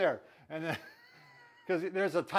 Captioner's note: laughs